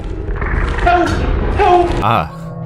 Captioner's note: horrific death noises